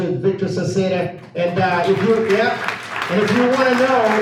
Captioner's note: audience applauds